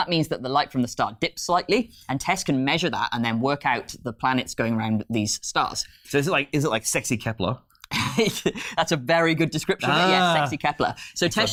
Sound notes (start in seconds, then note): 7.7 laughing